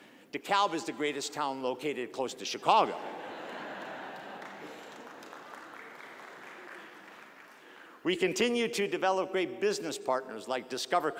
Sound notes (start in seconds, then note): 3.0 audience laughing; 5.5 audience applause